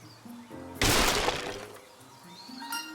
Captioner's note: crack*!!